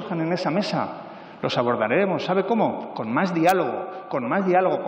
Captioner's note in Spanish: none